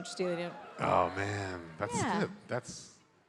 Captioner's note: crowd cheers